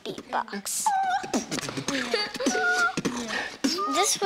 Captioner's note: beatboxing